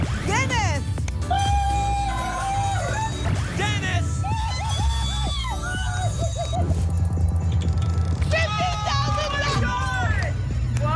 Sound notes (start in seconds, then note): 1.3 cheering; 4.3 cheering; 6.5 whoosh